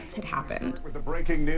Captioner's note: soundbite of archived recording